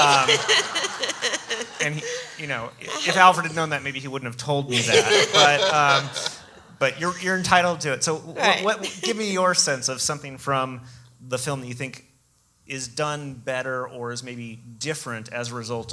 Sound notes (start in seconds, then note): 0.0 audience laughs; 4.7 laughing